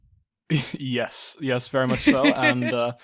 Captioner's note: laughs